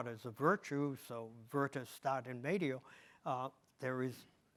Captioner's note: speaks in foreign language